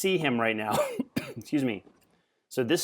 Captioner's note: coughing